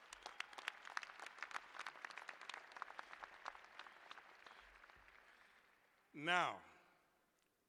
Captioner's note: applause